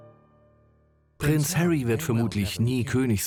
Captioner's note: voiceover